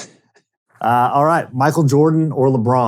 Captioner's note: laughing